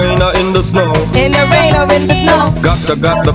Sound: beeps

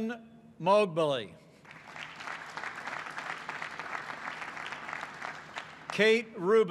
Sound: applause

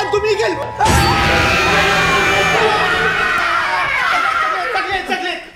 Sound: screams

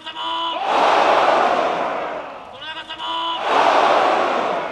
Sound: cheering

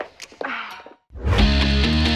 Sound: sighs

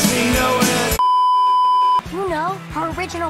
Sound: beeeeeep

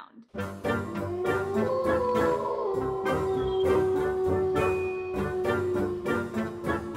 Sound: spooky music; wolf howling

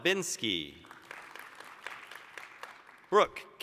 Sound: applause

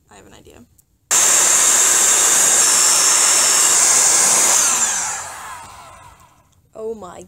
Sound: loud blowing noises

